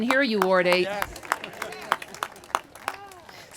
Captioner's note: applause